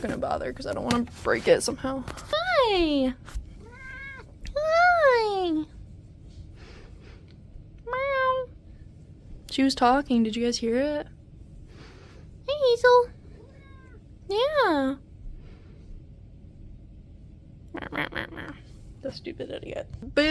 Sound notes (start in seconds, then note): 3.6 cat meows; 3.6 meows